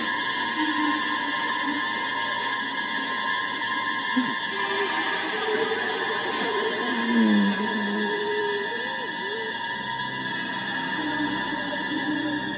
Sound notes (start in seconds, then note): 0.2 suspenseful music continues; 7.4 Reese groans